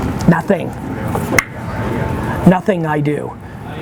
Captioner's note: clicks tongue